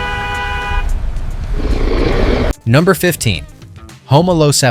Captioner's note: car hooting